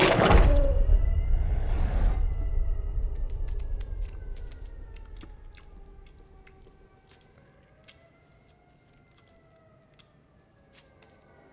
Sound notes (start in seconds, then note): 0.1 bones cracking; 3.2 faint sirens wailing; 6.2 CX404 licking